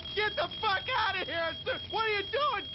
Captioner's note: stammering